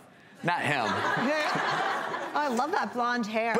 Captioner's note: audience laughs